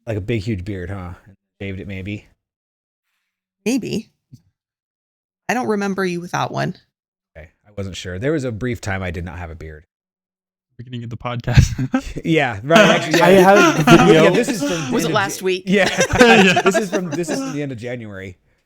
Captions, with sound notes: Like a big, huge beard, huh? David, it may be. Maybe. I don't remember you without one. Okay, I wasn't sure. There was a brief time I did not have a beard. I'm not sure I'm gonna get the podcast. Yeah, right. (both laughing) Was it last week? Yeah. (both laughing) This is the end of January.